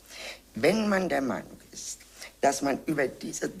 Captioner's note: in German